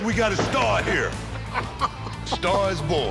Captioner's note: Rick laughing